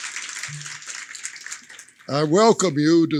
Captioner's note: applause